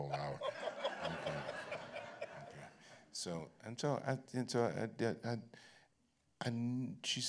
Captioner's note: laughter